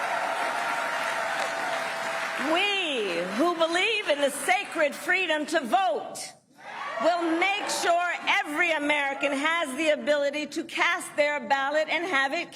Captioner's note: applause